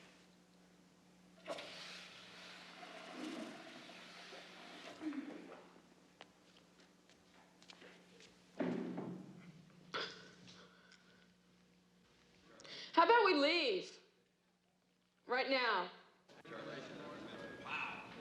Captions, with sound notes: [TOILET FLUSHES] HOW ABOUT WE LEAVE... RIGHT NOW?